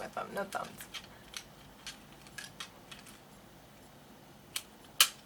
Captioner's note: plastic clicks